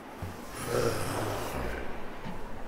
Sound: wind blowing violently; grunting; wind blowing violently

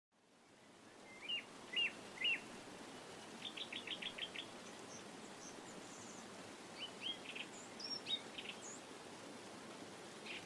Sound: sound of birds singing

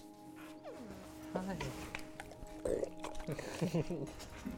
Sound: burp

